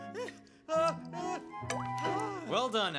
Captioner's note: Elvis Panting; plop